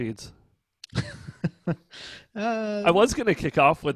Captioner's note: laughs